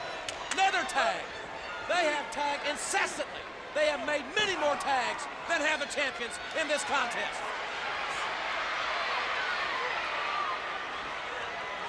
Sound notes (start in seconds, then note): 7.9 audience cheers